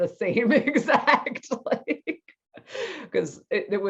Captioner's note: laughs